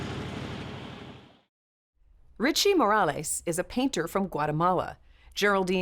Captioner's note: motorcycle engine roaring